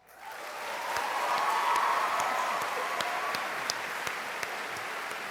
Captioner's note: cheering and applause